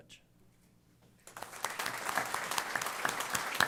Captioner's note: applause